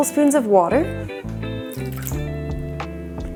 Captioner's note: water pouring sound